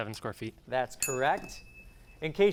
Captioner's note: ding